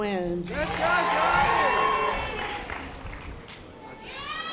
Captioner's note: audience applause